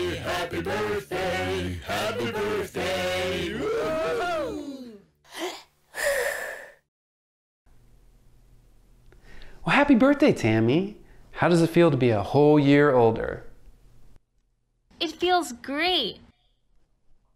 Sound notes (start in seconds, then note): 5.9 Tammy inhales; 6.2 Tammy blows